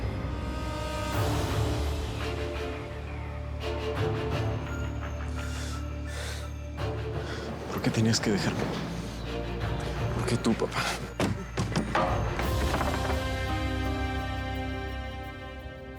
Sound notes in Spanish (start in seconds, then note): 12.1 estruendo